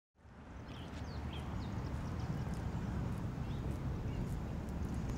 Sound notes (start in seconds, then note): 0.3 birds chirping